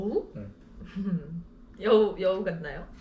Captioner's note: laughing